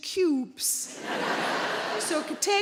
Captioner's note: audience laughing